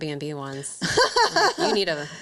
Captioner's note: laughs